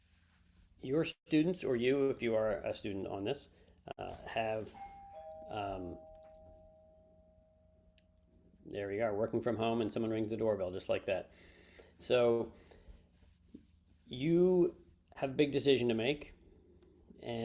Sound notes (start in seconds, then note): 4.6 doorbell rings